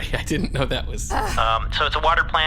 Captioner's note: huffs